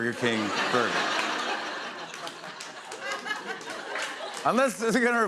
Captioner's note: laughter